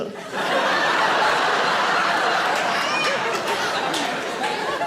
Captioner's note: audience laughing